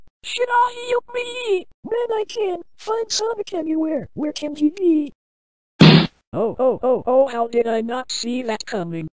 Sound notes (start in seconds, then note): 5.8 smack